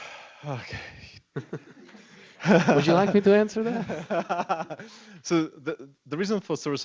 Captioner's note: laughter